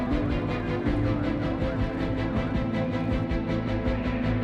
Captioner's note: people talking on radio